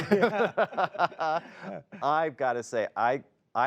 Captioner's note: laughter